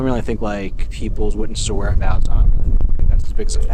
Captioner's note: faintly speaks